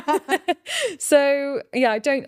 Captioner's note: laughing